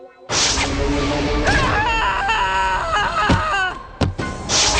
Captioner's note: screaming